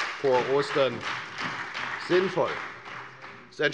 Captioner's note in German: Beifall bei der FDP